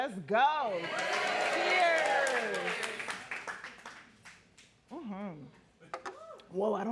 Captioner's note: audience clapping and cheering